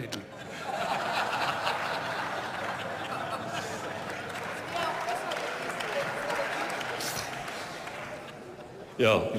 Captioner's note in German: Lachen, Beifall und Zwischenruf